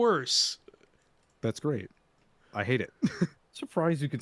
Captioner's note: laughter